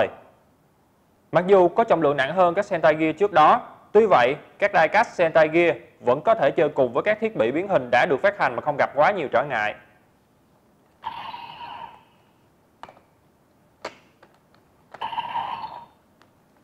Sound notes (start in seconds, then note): 10.9 gear cap opened